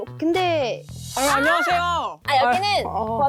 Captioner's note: who are you supposed to be sound effect